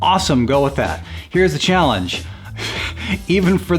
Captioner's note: laughs